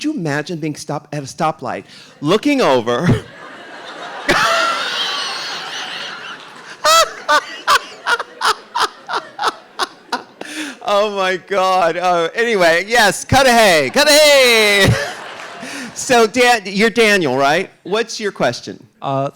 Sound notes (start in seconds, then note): 3.5 RuPaul laughs; 5.8 audience applauding